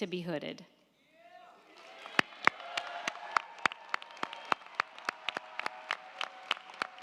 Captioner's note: crowd cheering; crowd clapping